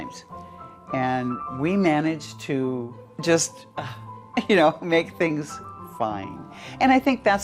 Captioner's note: sighs